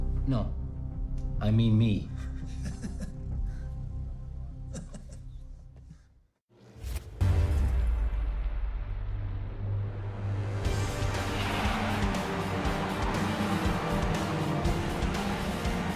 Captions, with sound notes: No, I mean me. (Laughing) (Dramatic Music)